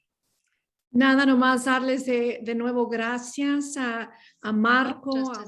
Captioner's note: non-english speech